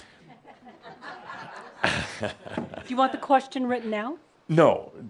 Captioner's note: some giggles